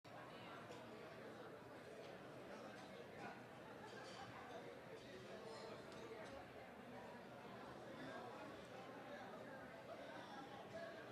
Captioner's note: general chatter